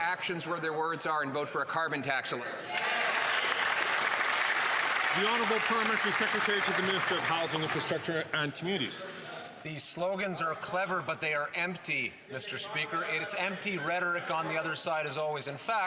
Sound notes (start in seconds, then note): 8.7 some Applause